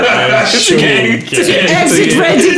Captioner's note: laughing